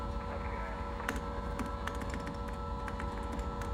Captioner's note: typing